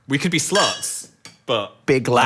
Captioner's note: glasses clang